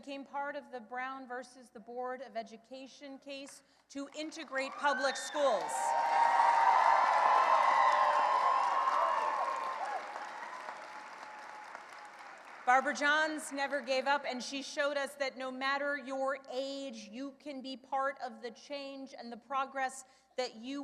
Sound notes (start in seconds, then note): 6.7 cheering and applause